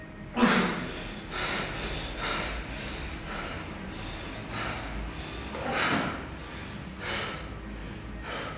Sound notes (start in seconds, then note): 0.3 harsh breathing sounds